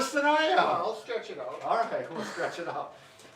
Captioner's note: laughing